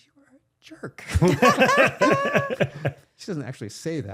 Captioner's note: laughing